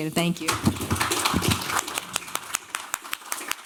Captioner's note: applause